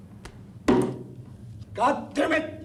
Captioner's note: table thudding